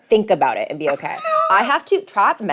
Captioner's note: laughs